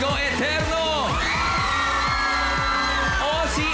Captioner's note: crowd screaming